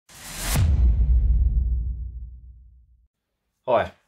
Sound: graphics boom

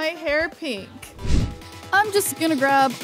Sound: screen swoosh

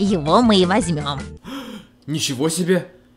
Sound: gasp

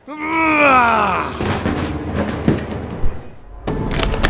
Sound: furious Roar; crashes and Bangs

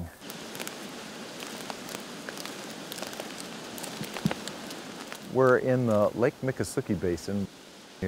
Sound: crunching of leaves

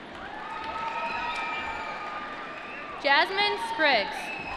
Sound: applause

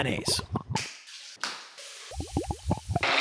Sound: eggs breaking; dripping

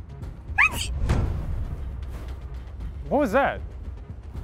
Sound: woman sneezes

